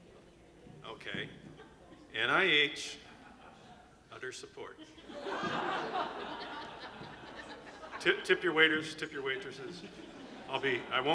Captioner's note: laughter